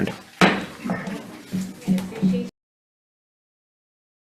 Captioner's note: gavel bangs